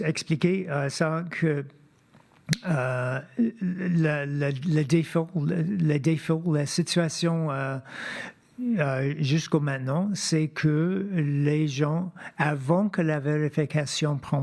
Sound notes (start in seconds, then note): 1.9 speaking French